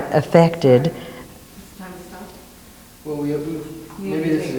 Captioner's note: woman speaks off mic